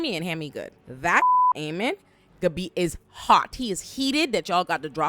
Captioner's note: beep